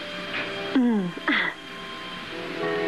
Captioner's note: chuckles